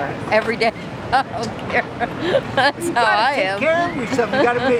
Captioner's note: laughing